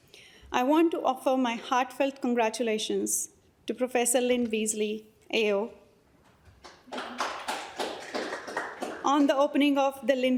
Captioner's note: applause